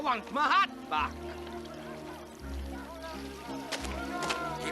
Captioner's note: men shouting in distance